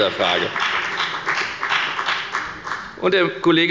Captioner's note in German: Beifall bei der FDP